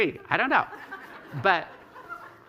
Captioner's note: laughter